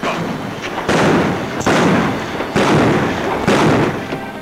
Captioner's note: guns bang